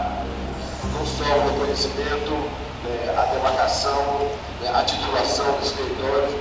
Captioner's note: speaking in foreign language